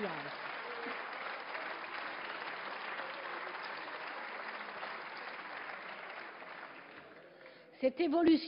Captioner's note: Applause from many benches groups SRC, ecologist, and RRDP GDR